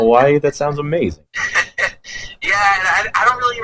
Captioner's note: laughs